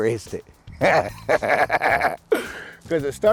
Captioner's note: laughing